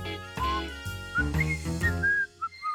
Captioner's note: whistles